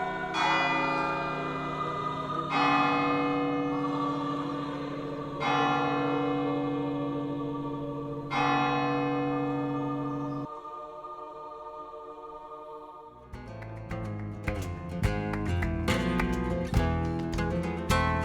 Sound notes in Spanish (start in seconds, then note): 3.6 campana; 9.6 campana